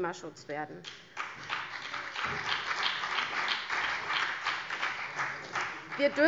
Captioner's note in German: Beifall CDU und BÜNDNIS 90/DIE GRÜNEN